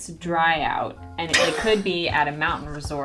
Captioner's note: laughing